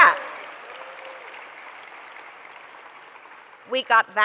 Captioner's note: applause